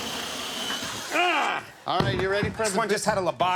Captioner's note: Conan grunts